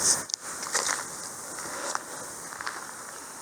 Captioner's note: footsteps crunching on dirt